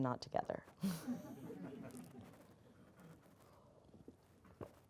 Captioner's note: audience laughing